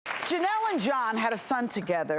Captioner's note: audience applause